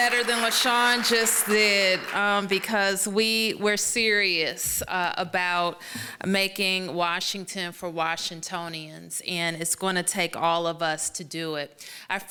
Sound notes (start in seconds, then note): 2.2 applause